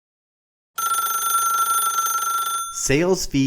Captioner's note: bell ringing